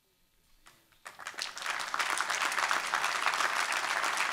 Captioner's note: applause